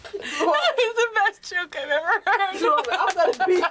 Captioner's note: laughs